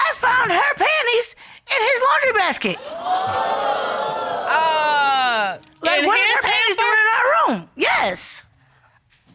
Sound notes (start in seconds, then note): 2.8 audience exclaiming